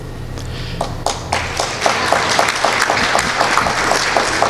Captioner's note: applause